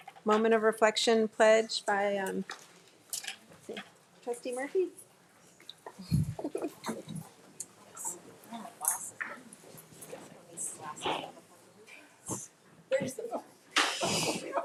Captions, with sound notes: Moment of Reflection Pledge by Trustee Murphy. (light chatter)